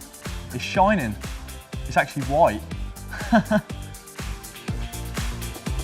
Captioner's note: laughs